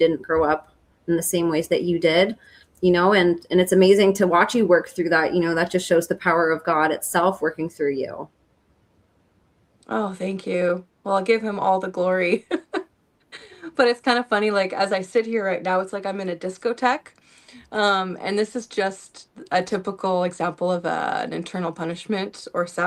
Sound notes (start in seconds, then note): 12.3 laughter